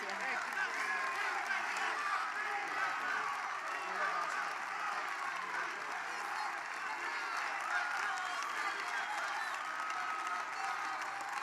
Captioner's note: applause